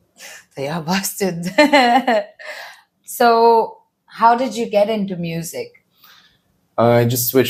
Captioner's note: laughs